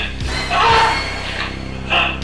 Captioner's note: screams